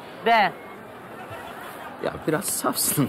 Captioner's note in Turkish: Gülme efekti